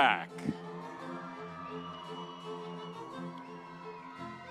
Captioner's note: audience cheering